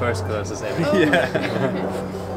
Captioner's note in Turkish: kahkahalar